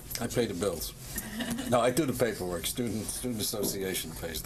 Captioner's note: laughter